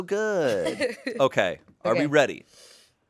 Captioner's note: laughs